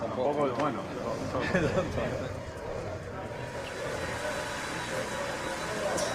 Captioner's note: speaking Spanish